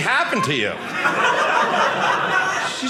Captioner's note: audience laughing